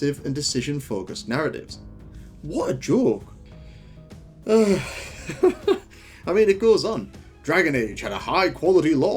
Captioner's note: laugh